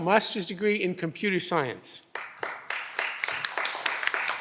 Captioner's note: audience applause